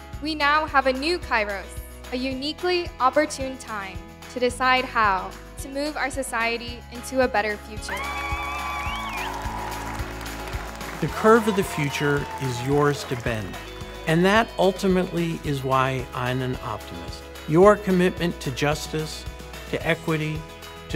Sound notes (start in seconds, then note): 7.8 crowd cheering and applauding